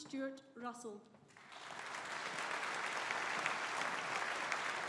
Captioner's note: audience applauding